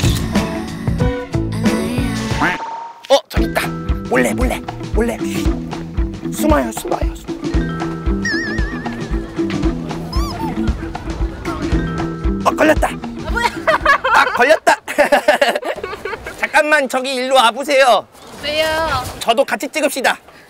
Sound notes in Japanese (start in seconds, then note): 10.1 エヘヘ